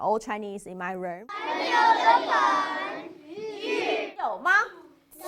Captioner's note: speaking chinese